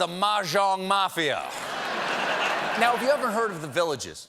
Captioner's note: laughter